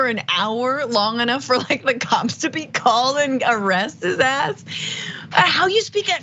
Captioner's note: laugh